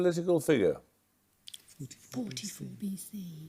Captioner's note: muttering